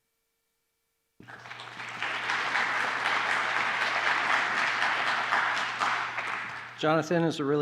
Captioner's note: applause